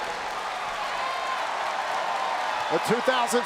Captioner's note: crowd cheers and claps